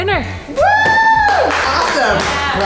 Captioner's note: whooping